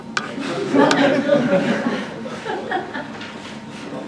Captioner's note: audience laughs